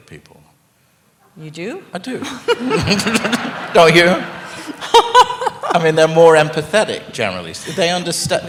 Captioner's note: laughter